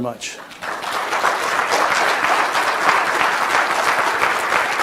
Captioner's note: audience applauds